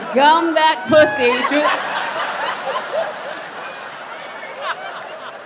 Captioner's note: audience laughs